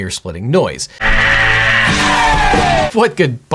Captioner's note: rockstar screaming